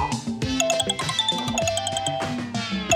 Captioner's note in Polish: sygnał przychodzącego połączenia